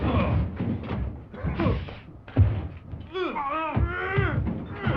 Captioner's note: body thuds